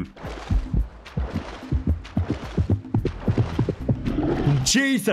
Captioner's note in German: dramatisches Klopfen